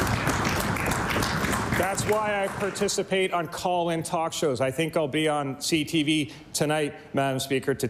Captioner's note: applause